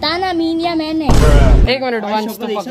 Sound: bruh and vine boom sound effect playing together

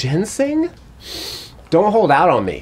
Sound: sniffs

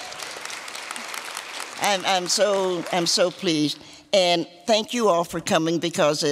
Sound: applause

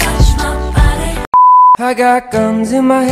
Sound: beep

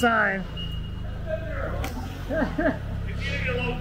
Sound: background chattering

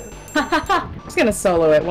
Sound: laughs

